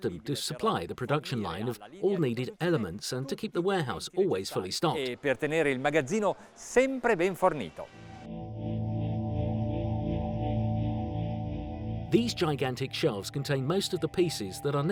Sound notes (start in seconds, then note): 5.2 speaks Italian; 8.1 suspenseful music